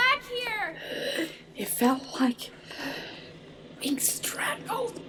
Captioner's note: gasping; gasps